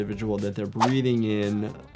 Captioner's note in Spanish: gráficos silbando